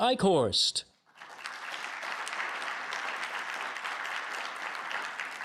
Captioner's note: audience clapping